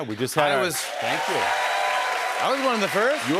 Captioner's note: cheers and applause